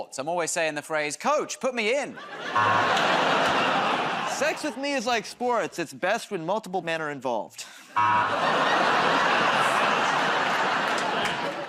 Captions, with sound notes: I'm always saying the phrase "Coach, put me in." [ Laughter, buzzer ] -Sex with me is like sports. It's best when multiple men are involved. [ Laughter, buzzer ]